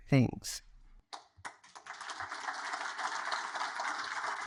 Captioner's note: audience applaud